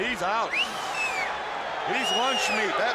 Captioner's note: crowd cheering